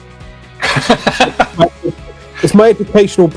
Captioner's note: both laughing